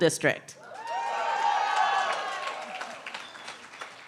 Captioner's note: cheering